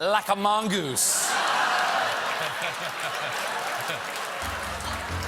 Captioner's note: laughter